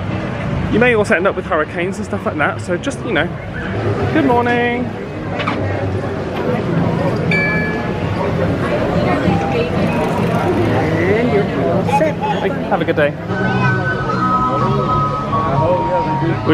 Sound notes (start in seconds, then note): 7.2 magic band scanner chimes